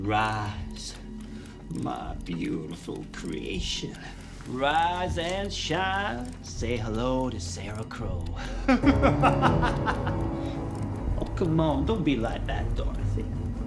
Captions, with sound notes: Rise, my beautiful creation. Rise and shine. Say hello to Sarah Crow. (Oscar laughing) (ominous music) Oh, come on. Don't be like that, Dorothy.